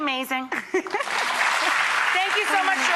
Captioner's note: audience clapping